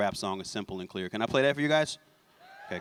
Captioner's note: cheers